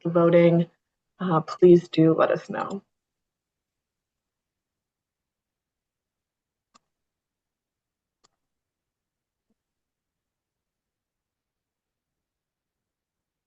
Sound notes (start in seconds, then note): 3.1 pause